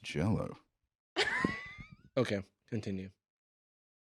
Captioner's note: laughs